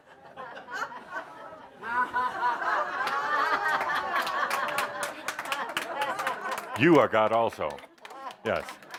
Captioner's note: laughter and applause as he hands her a metal sign